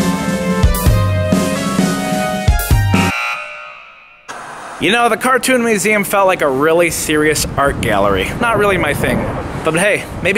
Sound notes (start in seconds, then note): 0.0 upbeat music; 2.6 alarm dinging; 4.2 static hissing